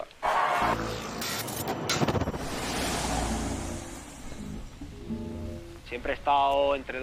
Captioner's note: Traffic